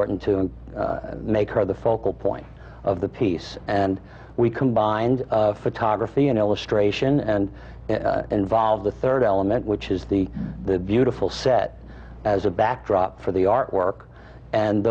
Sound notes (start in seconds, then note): none